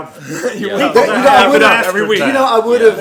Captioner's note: laughter